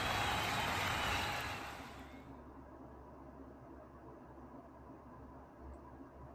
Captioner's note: audience applauding and cheering